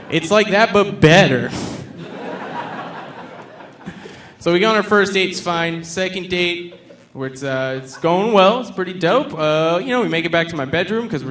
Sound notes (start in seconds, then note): 1.9 audience laughing